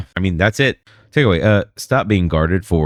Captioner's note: uh